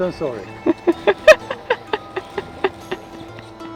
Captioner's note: laughs